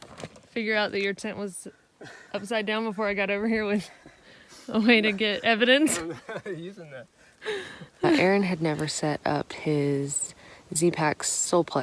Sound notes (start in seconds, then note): 5.8 laugh